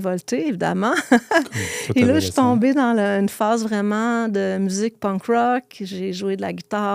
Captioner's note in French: rires